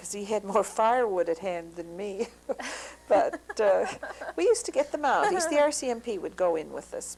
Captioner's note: laughter